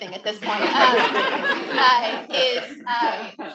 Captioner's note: attendees laughing